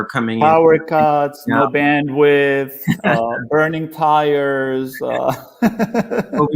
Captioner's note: laughs